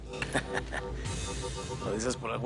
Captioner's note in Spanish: Ríe